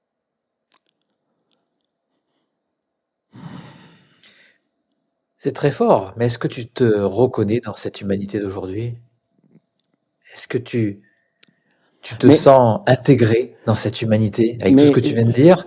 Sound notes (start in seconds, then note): 3.3 sigh